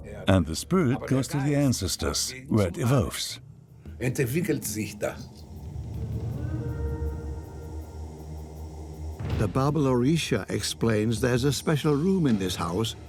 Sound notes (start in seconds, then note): 6.4 horn rings out